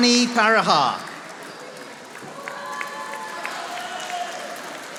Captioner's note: audience applauding